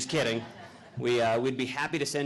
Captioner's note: audience laughing